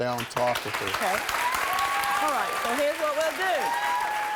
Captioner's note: applause